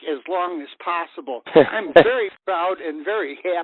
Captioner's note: laughing